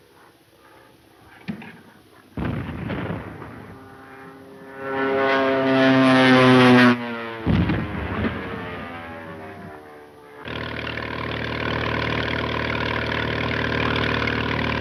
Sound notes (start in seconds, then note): 2.4 bomb exploding; 4.6 airplane engine roaring; 7.4 bomb exploding; 8.9 airplane engine roaring; 10.4 speedboat engine revving